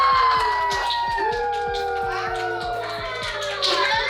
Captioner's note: cheering